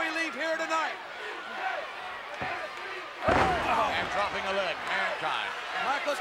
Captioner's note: applause